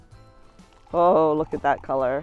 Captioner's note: upbeat music; beer sloshes